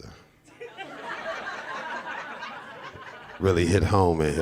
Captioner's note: audience laughing